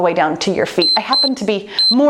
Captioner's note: timer beeps